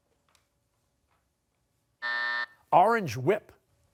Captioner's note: buzzer